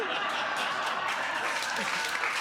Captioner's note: all laughing